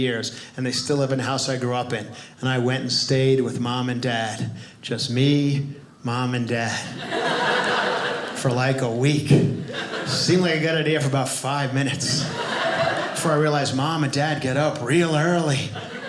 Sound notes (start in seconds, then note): 6.9 audience laughing